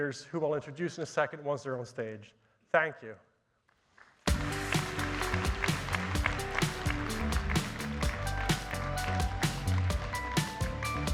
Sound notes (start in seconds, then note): 4.2 audience applauding; 4.2 upbeat music